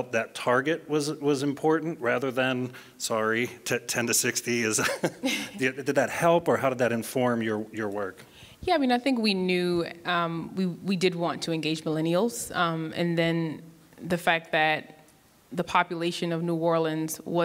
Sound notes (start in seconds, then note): 4.8 laughs